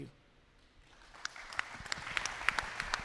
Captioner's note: applause